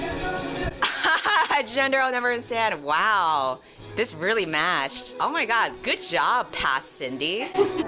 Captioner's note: laughs